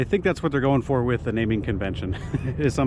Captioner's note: laughs